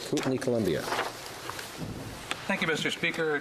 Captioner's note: speaking French